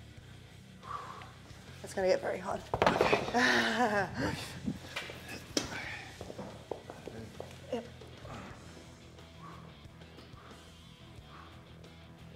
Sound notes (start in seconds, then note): 5.8 laugh